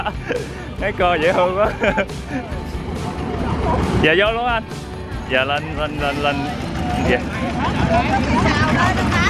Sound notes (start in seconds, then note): 1.2 laugh